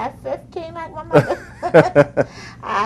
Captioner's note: laughs